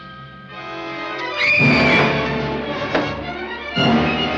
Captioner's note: scream